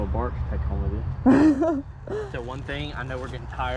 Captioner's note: laughing